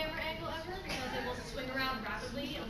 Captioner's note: laughs